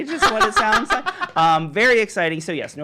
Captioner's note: women laugh